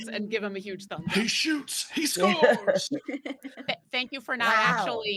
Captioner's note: all laughing